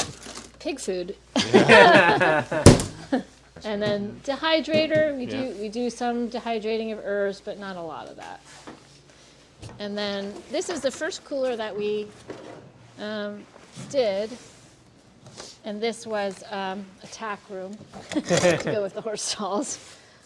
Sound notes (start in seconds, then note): 1.3 all laughing